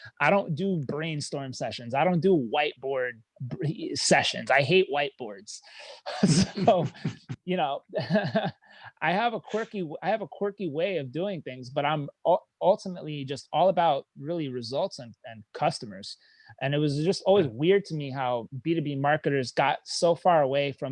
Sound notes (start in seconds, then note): 5.9 laughing